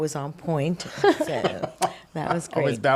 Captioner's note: laughing